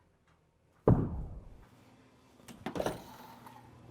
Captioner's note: audible gunshots